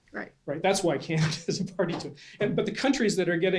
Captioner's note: laughs